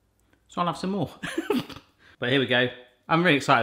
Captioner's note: laughs